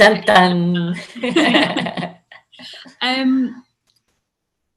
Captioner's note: laugh loudly